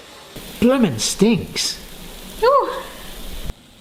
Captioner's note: press sizzling